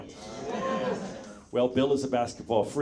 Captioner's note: audience members cheer